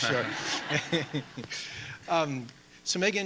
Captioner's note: people laughing